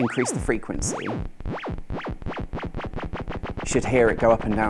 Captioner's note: high pitched whirring